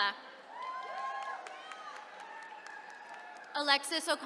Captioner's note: attendees cheering